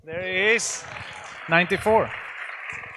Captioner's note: audience applauds